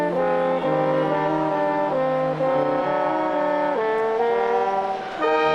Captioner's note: stately music continues; audience cheering